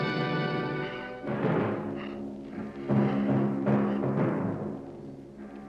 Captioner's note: Johnny breathes heavily